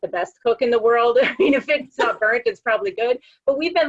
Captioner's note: laugh